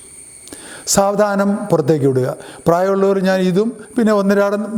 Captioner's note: exhaling